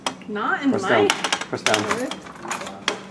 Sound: none

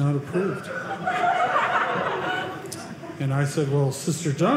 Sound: audience laughing

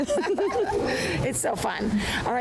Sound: laughter

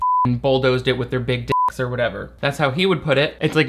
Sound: beep

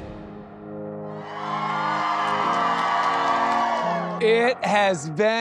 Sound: students cheer

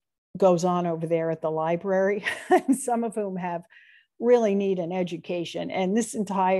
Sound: laughter

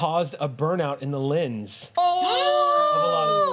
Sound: cheering

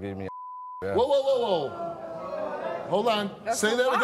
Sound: beep; audience groans

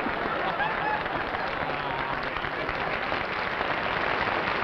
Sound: laughter

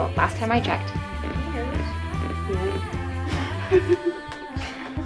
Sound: shoes creaking

